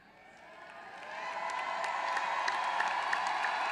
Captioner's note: applause